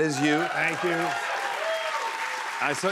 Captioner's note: cheers and applause